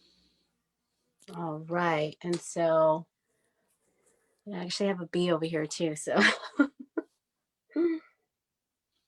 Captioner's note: chuckles